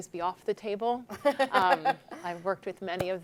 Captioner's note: laughing